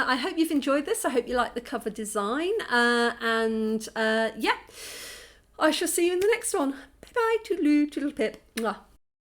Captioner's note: kiss